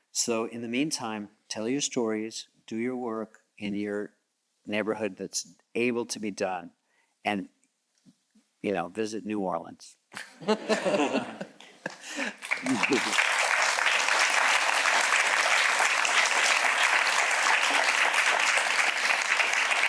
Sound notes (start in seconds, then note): 10.2 all chuckles; 11.8 audience clapping